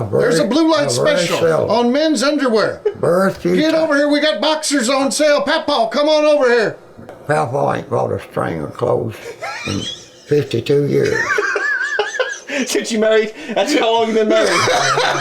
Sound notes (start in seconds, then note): 11.0 laughing; 14.3 laughing